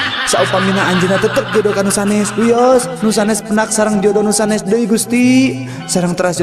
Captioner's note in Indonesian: tertawa